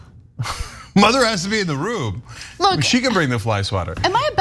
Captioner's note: laugh